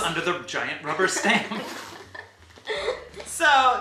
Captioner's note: laugh